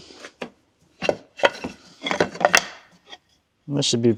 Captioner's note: wood rattling